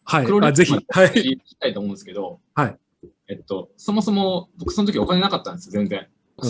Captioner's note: laughs